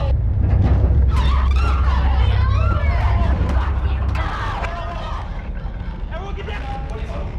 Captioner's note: screaming